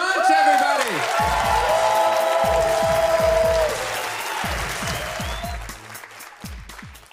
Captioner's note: audience cheers